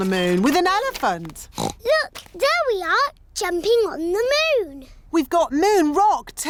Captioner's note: oinks